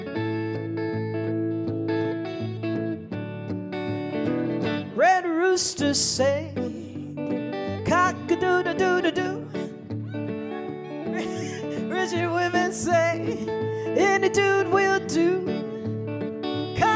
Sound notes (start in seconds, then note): 0.2 subtle guitar music; 10.0 people laughing